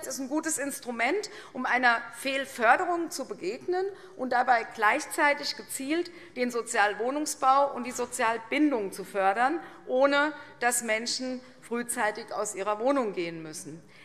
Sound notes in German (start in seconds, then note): none